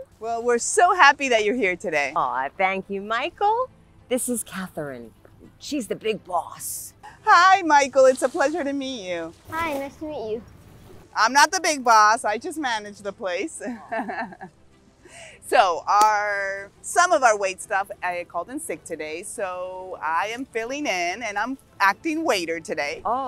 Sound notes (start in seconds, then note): 13.7 laughs